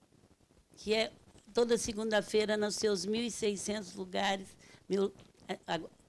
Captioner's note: speaking Portuguese